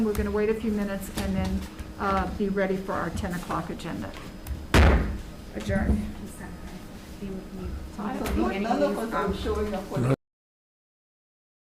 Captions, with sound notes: We're going to wait a few minutes and then be ready for our 10 o'clock agenda. (gavel banging loudly) Adjourn. (members conversing)